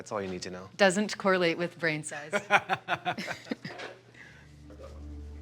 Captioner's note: both laughing; somber music